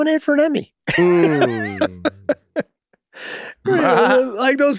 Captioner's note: hosts laugh